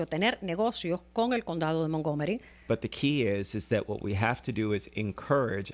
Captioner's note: Hablando ingl\s